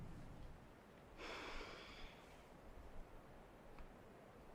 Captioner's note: Rachel sighs